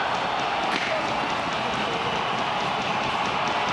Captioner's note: crowd cheers